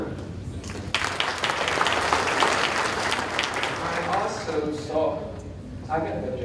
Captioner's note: audience applauding